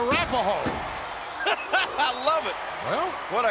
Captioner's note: laughing